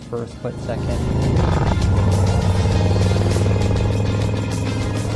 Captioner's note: motorcycle revving